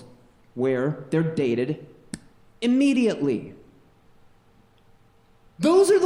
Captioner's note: snaps